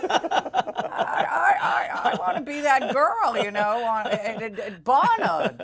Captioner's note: laughter